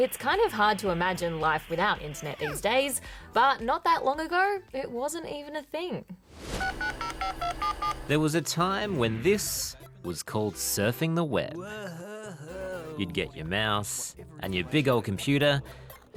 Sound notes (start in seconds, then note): 6.5 dial-up modem beeps